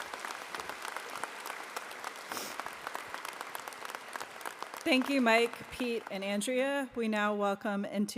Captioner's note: applause